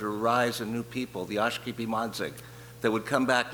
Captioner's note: speaking in foreign language